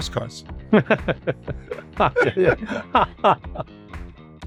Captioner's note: both laughing